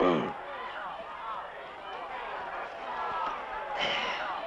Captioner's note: shouting